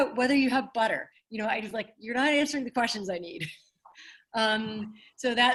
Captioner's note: chuckles